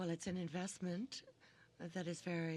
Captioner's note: speaking French